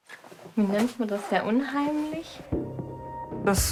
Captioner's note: speaks in German